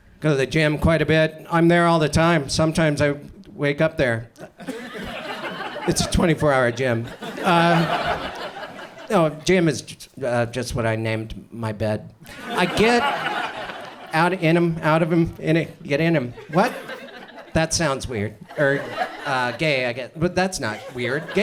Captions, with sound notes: Go to the gym quite a bit, I'm there all the time. Sometimes I wake up there. (audience chuckles) It's a 24-hour gym. No, gym is just what I named my bed. (audience laughs) I get in 'em, out of 'em, get in 'em, what? That sounds weird, or gay I guess, that's not weird,